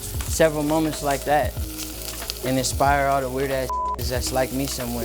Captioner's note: beep